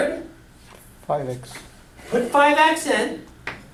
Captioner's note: voiceover